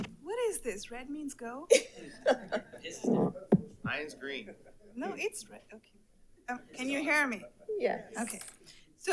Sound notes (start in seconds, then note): 1.7 attendee laughs